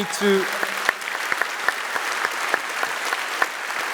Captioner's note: applause